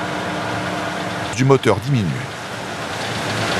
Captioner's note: foreign language